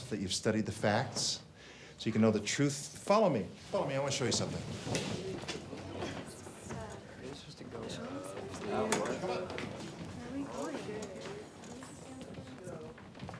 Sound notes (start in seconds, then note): 5.2 students murmuring; 8.4 students chattering